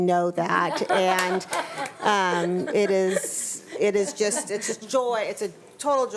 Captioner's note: board members laughing